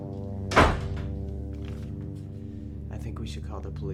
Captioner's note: door slamming